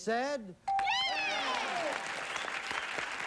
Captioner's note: mom cheering